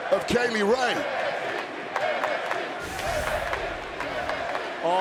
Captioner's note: crowd chants "NXT"